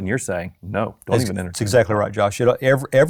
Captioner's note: mumbles